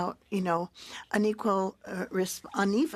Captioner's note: speaking French